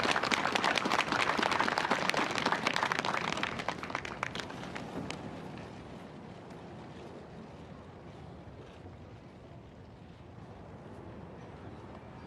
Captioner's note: applause